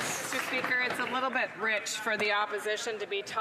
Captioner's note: some Applause